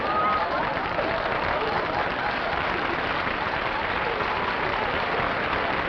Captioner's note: applause